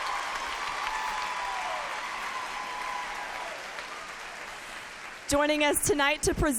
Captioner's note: applause